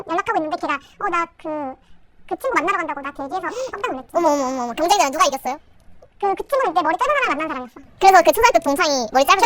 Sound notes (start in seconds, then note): 8.3 laughs